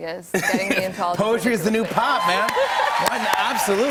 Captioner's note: cheers and applause